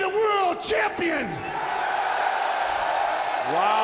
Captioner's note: audience cheering